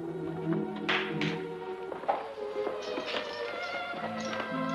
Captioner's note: claps